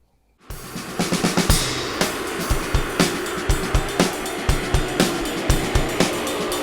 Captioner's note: upbeat music; bikes droning